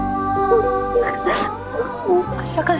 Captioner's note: sobbing